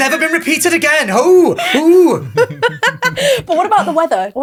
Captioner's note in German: lacht